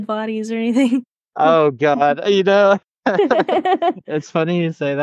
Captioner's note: laugh